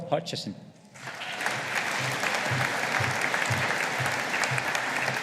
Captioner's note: audience applauding